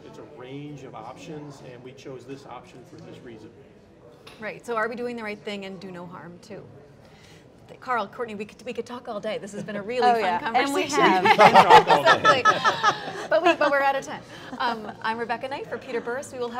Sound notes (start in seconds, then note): 11.0 laughter